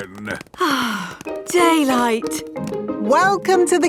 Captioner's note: sighs